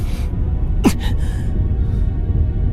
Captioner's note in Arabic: سعال